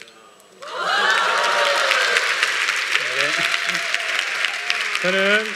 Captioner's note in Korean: 박수와 환호